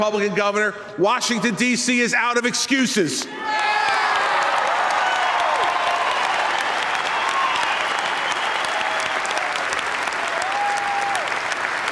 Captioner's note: applause